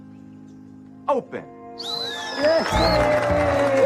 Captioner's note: blows whistle; applause